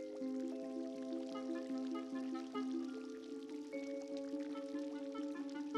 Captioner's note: none